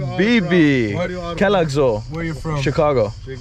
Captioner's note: foreign language